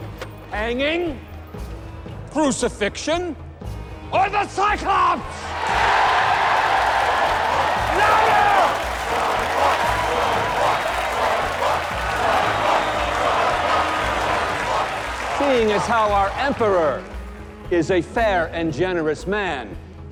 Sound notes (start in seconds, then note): 5.3 cheering; 7.9 chanting